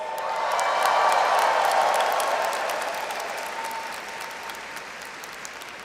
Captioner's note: audience cheers and applauds